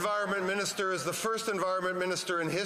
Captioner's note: applause